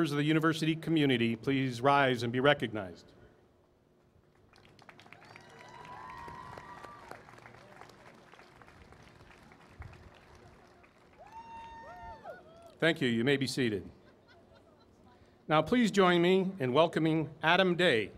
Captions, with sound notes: of the university community please rise and be recognized. [ Applause ] Thank you. You may be seated. Now please join me in welcoming Adam Day,